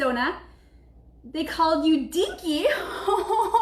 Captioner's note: giggling